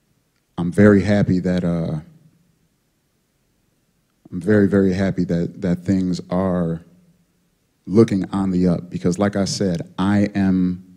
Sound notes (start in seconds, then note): none